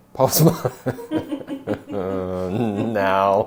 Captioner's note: laughter